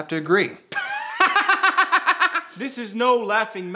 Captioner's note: laughing